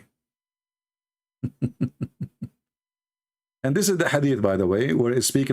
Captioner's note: Ketawa